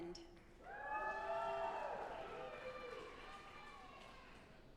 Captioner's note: audience applauding